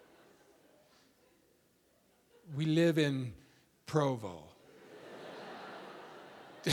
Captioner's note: audience laughing